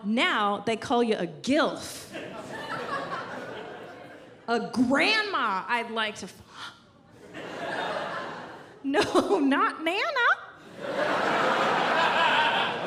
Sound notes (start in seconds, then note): 5.9 exhale